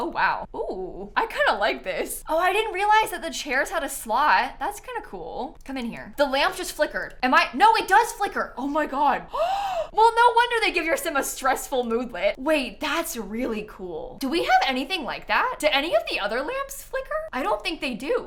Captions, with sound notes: Oh wow, oh, I kind of like this. Oh, I didn't realize that the chairs had a slot, that's kind of cool. Come in here. The lamp just flickered, am I -- no, it does flicker! Oh my god! [GASPS] Well, no wonder they give your Sim a stressful moodlet! Wait, that's really cool. Do we have anything like that? Do any of the other lamps flicker? I don't think they do.